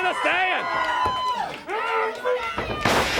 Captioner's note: crowd chatter